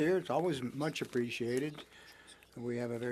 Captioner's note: speaking French